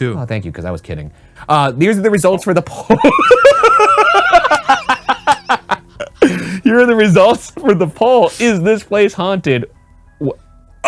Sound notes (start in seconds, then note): 2.8 both laughing; 2.8 laughing